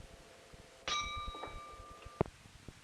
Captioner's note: bell Sound